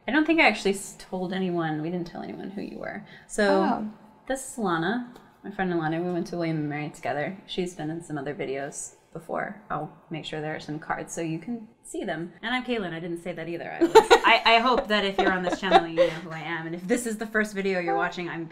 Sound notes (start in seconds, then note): 13.8 laughter